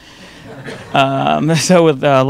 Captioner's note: audience laughing